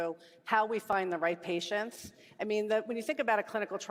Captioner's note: none